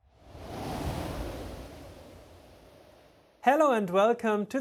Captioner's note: air whooshing